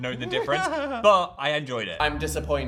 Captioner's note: Dan laughs